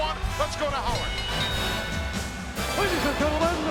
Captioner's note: bell dinging